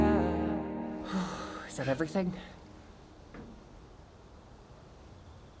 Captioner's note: exhale